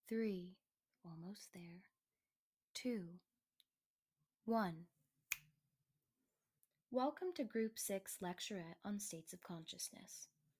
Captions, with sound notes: Three... Almost there. Two... One. *SNAP* Welcome to Group 6 Lecturette on states of consciousness.